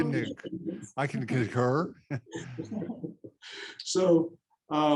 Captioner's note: laughs